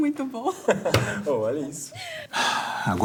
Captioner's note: laughs